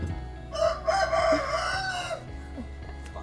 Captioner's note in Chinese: 這是真的雞叫聲